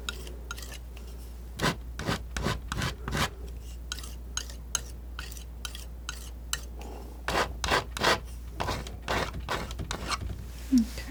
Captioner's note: tapping